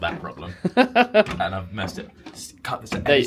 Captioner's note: laughs